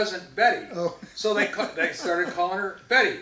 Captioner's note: chuckles